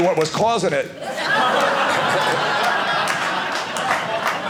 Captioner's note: audience laughing